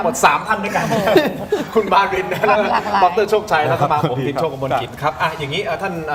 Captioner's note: laughs